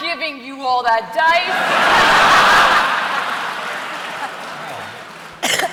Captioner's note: laughter